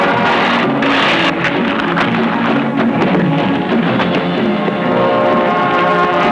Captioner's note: dramatic music; buzzing